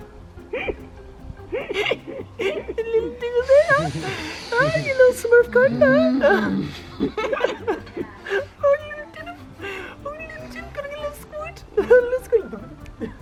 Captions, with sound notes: B- A little, a little bit huh? Huh Ya lil smurf cone huh? B- *Continues in small voice that I'm not trying to listen for*